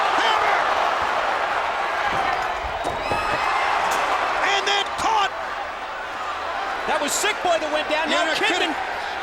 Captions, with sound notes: Hammer! (crowd cheering) And then caught. That was Sick Boy that went down, now Kidman.